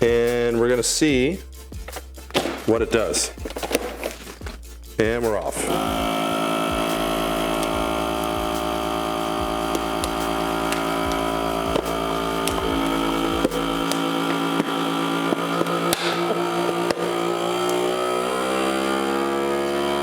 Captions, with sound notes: And we're gonna see what it does. And we're off. (machine buzzing) (can popping) (machine buzzing)